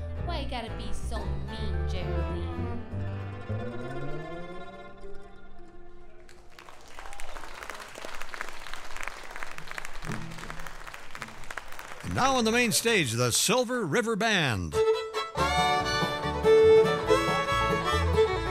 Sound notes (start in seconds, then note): 6.2 audience applauding; 15.0 bright bluegrass music